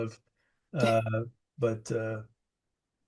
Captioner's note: laughs